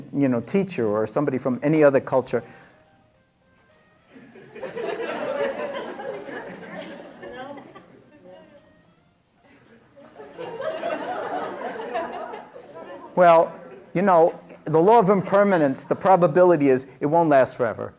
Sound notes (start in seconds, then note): 4.7 laughter; 4.7 ringing sound